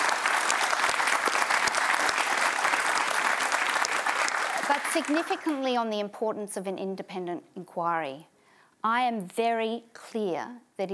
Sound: applause

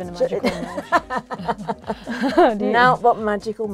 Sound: both laughing

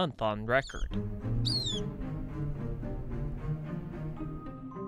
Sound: bird chirping

